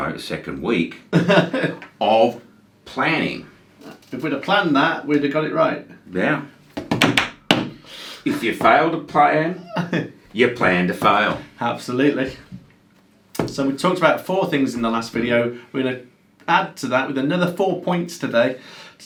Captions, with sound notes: no the second week, (laughs) of planning. - If we'd a plan that, we'd a got it right. - Yeah. (drums) - If you fail to plan, you plan to fail. - Absolutely. So we talked about four things in the last video. We're gonna add to that with another four points today,